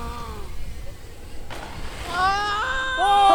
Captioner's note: gasping